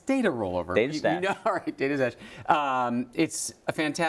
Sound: laugh

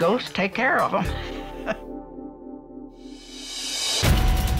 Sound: laughs

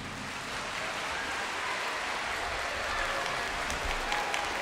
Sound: audience applauding

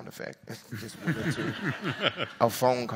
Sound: audience laughs

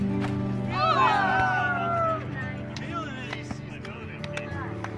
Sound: cheering and clapping

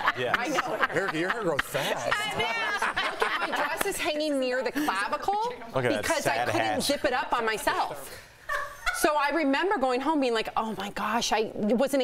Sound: laughter

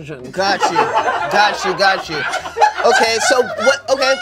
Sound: laughter

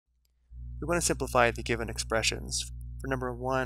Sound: voiceover

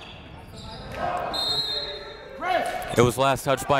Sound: whistle

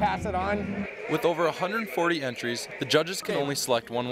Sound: voiceover

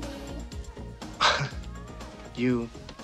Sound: huffs with amusement

